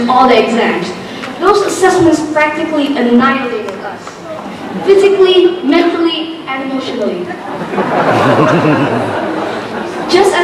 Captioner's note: laughter